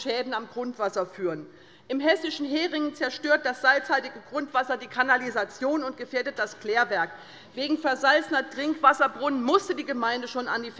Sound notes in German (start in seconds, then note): none